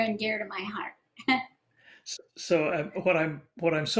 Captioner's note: laughter